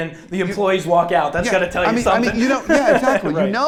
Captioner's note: chuckles